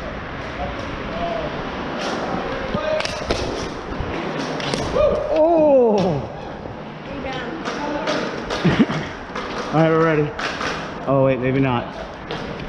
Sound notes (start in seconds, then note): 4.8 in background Wooo